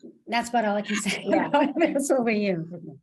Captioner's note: laughs